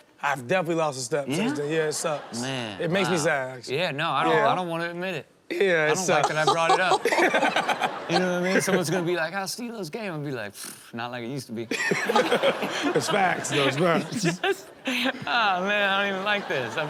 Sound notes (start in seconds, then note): 6.0 everyone laughs; 11.8 everyone laughs; 14.8 laughs